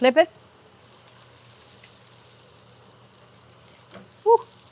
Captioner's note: pan sizzling